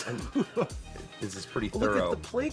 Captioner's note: laughs